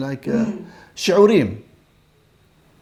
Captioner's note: Hebrew